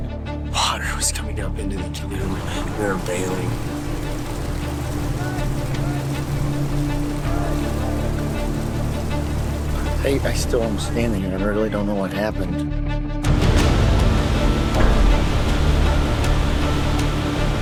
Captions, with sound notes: Water was coming up into the canoe. We were bailing. [Engine revving] I I'm still understanding I really don't know what happened.